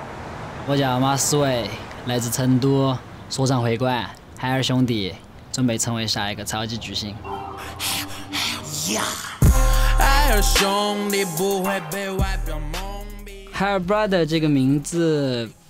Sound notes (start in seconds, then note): 0.6 speaking Chinese; 8.7 chinese style hip-hop